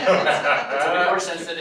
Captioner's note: all laughing